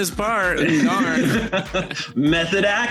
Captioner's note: laughter